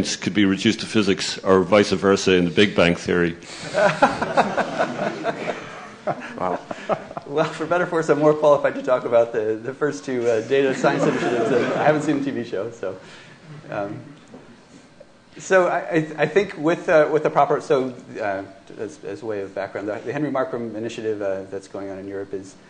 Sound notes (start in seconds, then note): 3.5 laughter